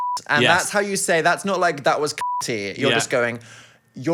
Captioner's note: beep; beep